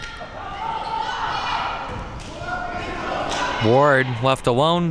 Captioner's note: spectators shouting